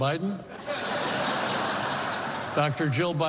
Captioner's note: laughter